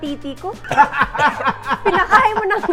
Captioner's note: laughs